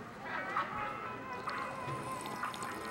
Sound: drinking

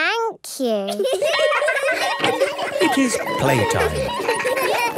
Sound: laughter; school bell ringing

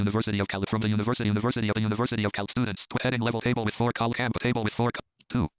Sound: screen reader reads fast

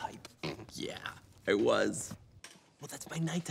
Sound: snorts

